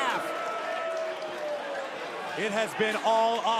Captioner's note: crowd chatter